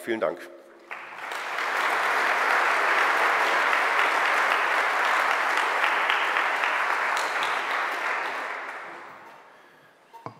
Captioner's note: general applause